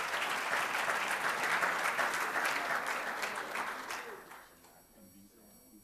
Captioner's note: applause